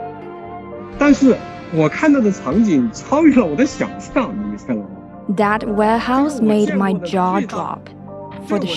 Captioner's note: speaking Mandarin Chinese